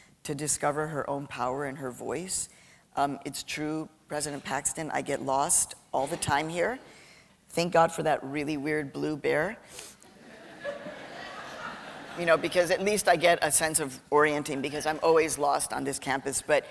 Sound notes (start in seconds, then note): 10.1 laughter